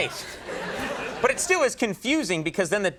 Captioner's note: audience laughing